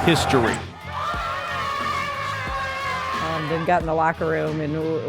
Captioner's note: cheering